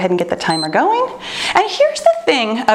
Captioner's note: timer beeps